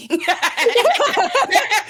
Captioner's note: laughing